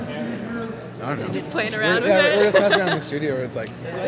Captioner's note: laughs